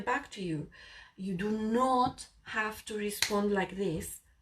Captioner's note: blonde woman clicks fingers